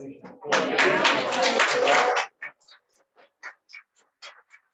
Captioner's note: attendees clapping